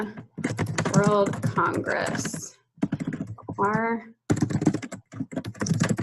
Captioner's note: keyboard keys clicking